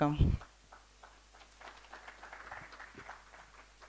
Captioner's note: applause